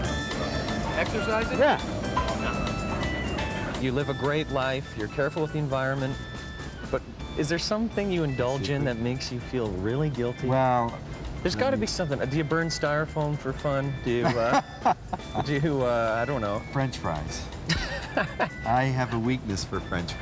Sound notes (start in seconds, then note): 14.2 laughing; 17.6 laughing